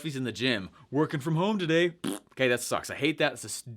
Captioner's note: blows a raspberry